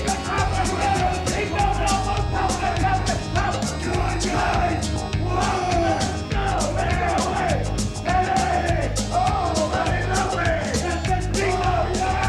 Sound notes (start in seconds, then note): 6.2 crowd clamoring